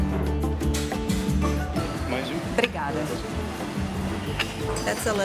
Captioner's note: in Portuguese